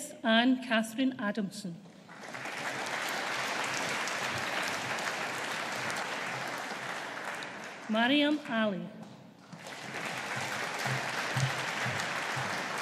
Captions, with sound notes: Beth Anne Catherine Adamson. (AUDIENCE APPLAUDING) Maryam Ali. (AUDIENCE APPLAUDING)